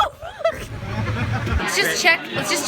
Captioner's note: laughs